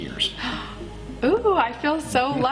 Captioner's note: gasps